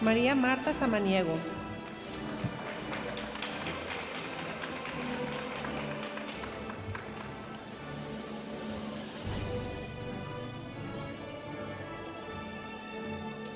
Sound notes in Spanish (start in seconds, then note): 3.4 aplausos de la audiencia; 8.3 continúa la música majestuosa suave en el fondo